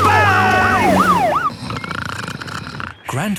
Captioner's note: siren wailing; snoring